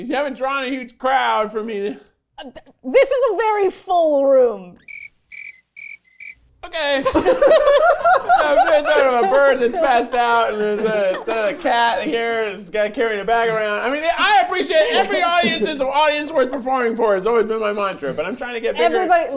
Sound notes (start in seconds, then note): 4.8 crickets chirping; 7.0 everyone laughing